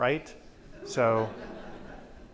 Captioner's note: audience laughs